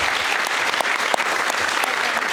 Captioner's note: applause